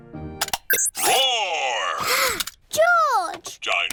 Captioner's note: gasps